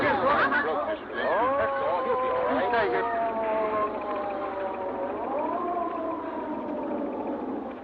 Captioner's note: ambulance siren wailing